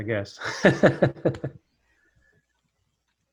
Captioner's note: laughs